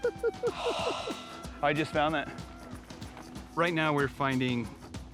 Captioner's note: laughing